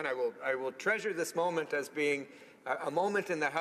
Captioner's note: speaking french